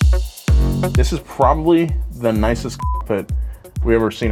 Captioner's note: beep